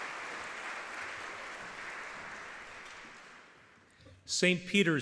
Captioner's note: audience clapping